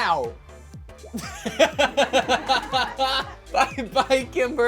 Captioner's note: laughs